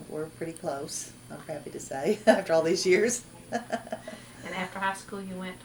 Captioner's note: laughs